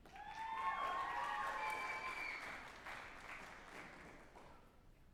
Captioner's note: group applauding and cheering